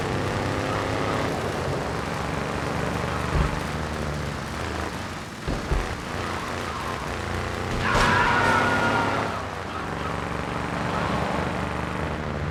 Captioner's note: sirens wailing